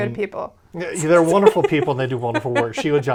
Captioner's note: laughs